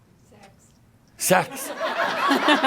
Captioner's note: laughter